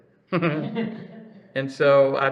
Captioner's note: laughs